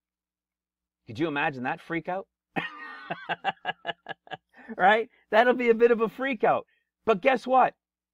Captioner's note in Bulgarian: Смях